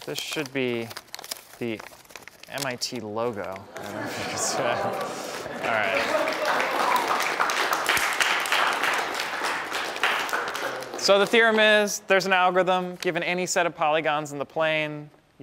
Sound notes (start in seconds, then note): 4.8 applause